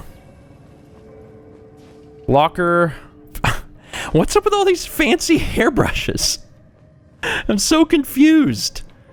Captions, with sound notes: 'Locker.' *chuckle* What's up with all these 'Fancy Hairbrushes?' I'm so confused!